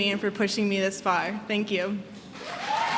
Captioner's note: applause